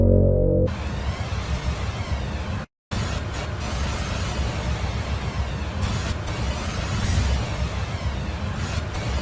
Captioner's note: suspenseful music; eerie sound